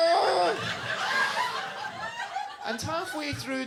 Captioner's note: audience laughing